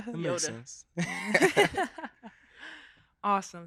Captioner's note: laughing